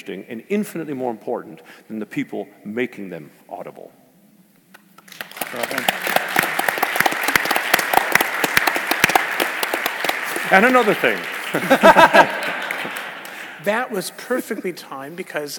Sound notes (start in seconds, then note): 5.0 applause; 11.5 laugh